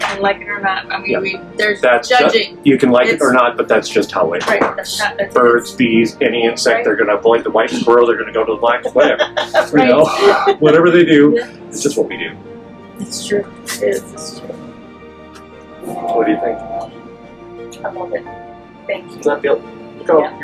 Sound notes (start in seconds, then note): 8.7 laughs